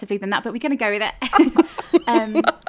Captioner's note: laughing